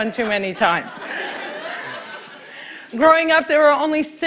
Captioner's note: laughter